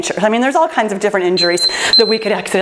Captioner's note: timer beeps